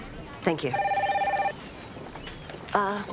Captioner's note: phone ringing